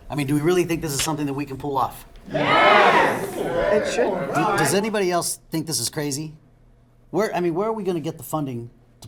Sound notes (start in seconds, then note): 2.2 crowd